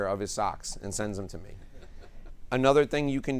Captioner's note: attendees laugh